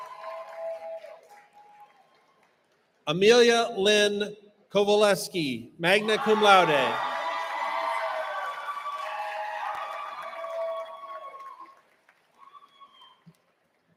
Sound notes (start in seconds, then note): 6.0 applause